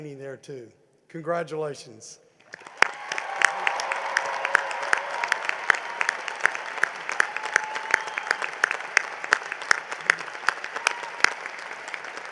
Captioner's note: cheering and applause